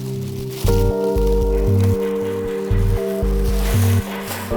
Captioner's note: plastic crackles